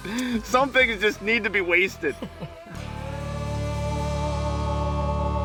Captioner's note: voiceover